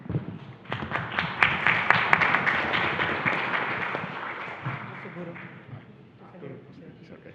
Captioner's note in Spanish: Aplausos